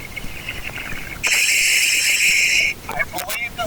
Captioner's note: oxygen pipe whirling